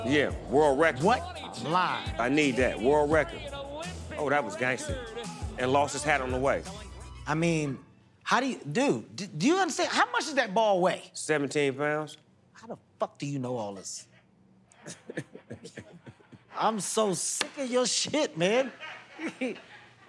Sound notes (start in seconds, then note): 14.7 laughter; 14.7 chuckles